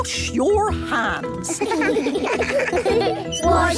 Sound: children giggling

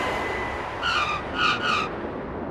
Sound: airplane; airplane wheels

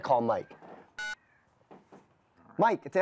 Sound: telephone beeps

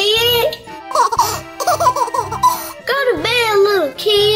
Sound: laughter

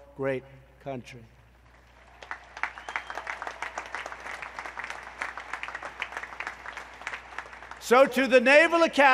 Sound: applause

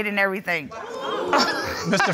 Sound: audience gasping

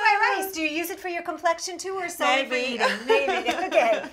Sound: laughter

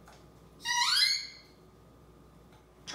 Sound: squeaking door sound

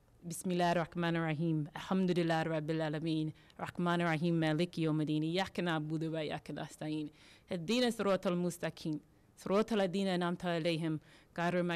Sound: speaking Arabic

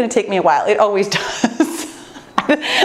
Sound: laughs

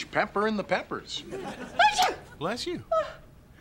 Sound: <i>sneezes

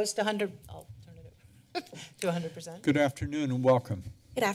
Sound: laughs

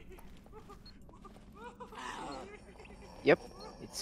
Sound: Exploder Begins Beeping

